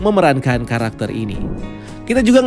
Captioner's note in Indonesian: suara transisi